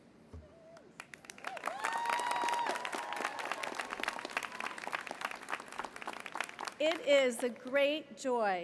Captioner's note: applause